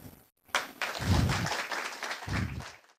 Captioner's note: applause